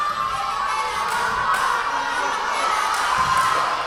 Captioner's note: yelling